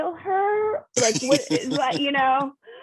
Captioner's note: laughs